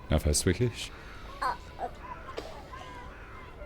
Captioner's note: baby making noises